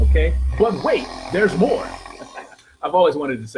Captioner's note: laughing